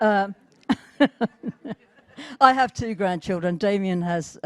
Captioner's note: laughter